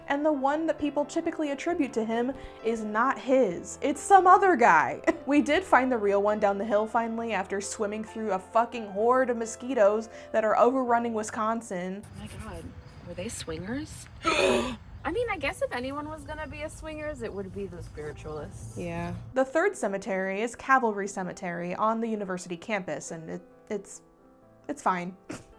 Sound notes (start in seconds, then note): 11.9 gasps